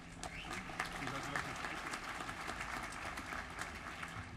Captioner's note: applause